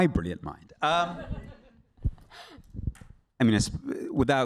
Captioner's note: laughter